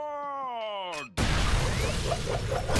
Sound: clicks; blasts

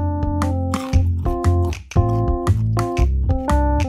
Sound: Ed chomps

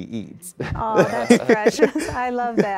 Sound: laughing

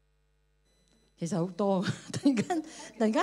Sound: Cantonese

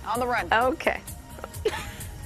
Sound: laughter

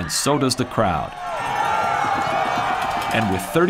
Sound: crowd cheering

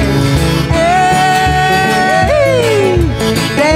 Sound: yelling

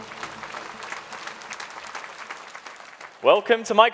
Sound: audience applauding

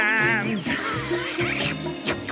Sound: slurping

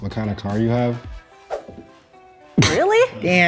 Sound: air whooshing

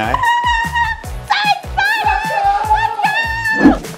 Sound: screaming

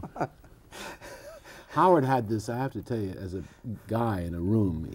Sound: laughter

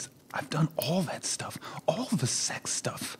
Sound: whispers; whispers

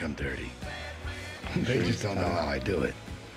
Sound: chuckling

